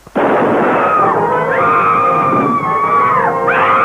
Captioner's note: screaming